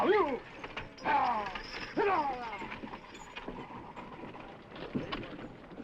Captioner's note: horse hooves clopping